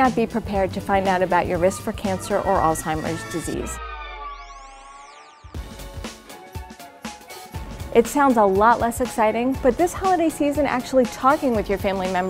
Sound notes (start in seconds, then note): 4.1 record winding down; 6.1 fast music